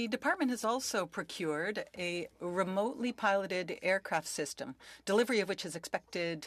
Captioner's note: speaking French